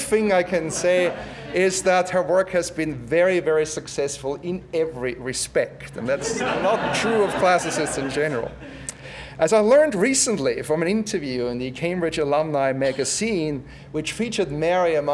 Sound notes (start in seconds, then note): 6.1 laugh